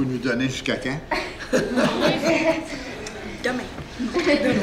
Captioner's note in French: rires